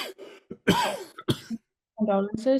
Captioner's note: coughing